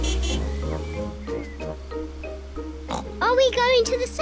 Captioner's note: oinks